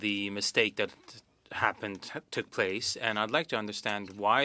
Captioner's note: speaking French